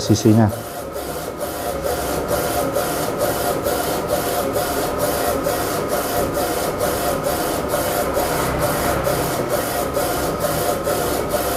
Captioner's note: printer machine noise